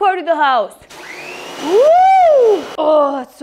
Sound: pressure washer whirring

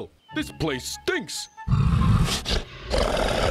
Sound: snorting

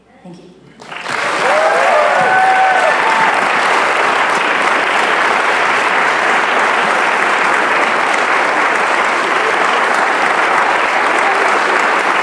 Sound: applause

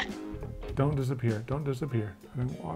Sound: upbeat music; bite sound effect

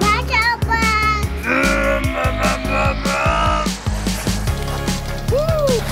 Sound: imitates a revving engine

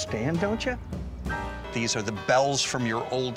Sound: church bells tolling

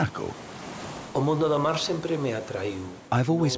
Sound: he speaks Spanish

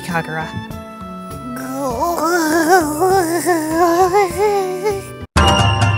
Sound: Imu utters love-struck babbling

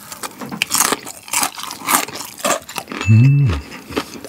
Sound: crunchy

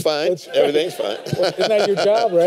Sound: laughter

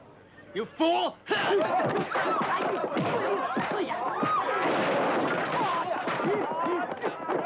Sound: men shouting; fists thumping

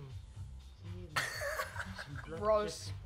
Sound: laughs

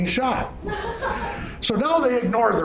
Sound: laughing

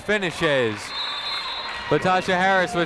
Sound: whistle tweeting

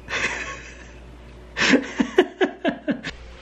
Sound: laughs

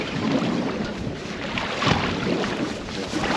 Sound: rod whipping; reel spinning; reel cranking

